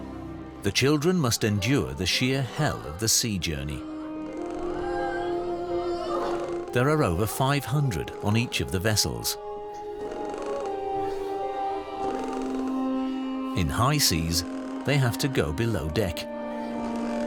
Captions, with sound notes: The children must endure the sheer hell of the sea journey. There are over 500 on each of the vessels. [boards creaking] In high seas, they have to go below deck.